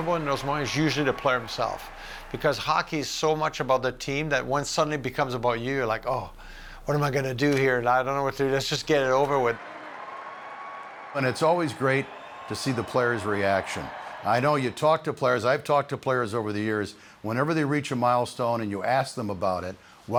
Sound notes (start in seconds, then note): 9.6 fans cheering